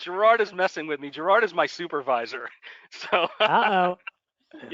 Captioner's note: laughter